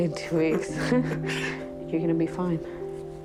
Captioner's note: laughs